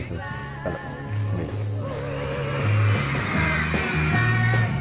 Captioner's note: crowd cheering